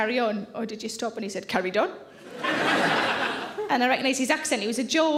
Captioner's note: audience laughing